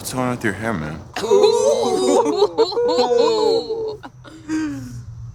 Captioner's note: group snickering